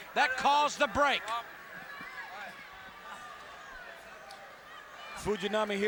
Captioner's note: audience chattering